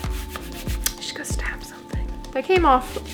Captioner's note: whispered